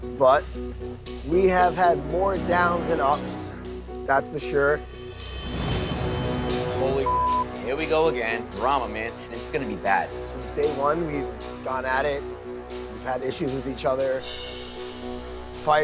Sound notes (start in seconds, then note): 5.1 dramatic music; 7.0 beep